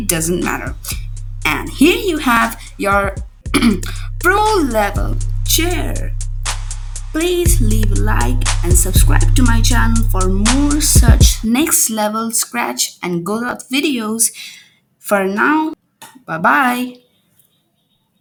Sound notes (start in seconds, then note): 3.4 clearing up the throat